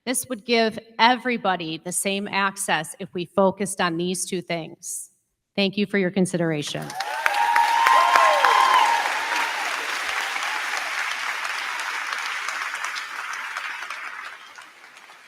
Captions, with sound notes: This would give everybody the same access if we focused on these two things. Thank you for your consideration. (crowd cheering) (crowd clapping)